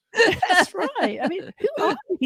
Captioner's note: laughter